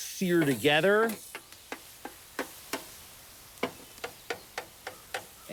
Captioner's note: metal tapping